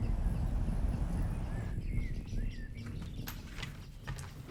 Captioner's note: birds singing